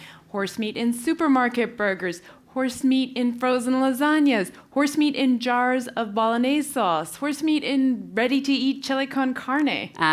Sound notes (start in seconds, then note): none